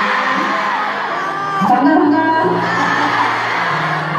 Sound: busan accent

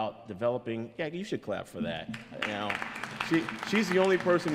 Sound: audience applauds

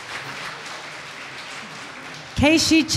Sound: audience applause

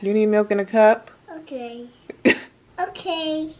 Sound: laughter

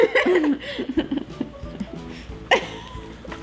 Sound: laughing

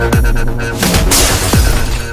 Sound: glass shatters

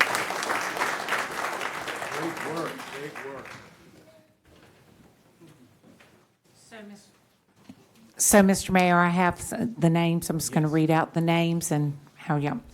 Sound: applause

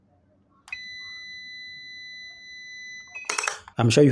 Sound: multimeter beeping

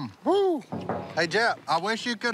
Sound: knocking

